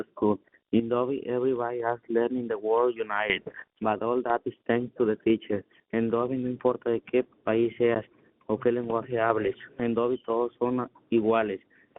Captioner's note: speaking in spanish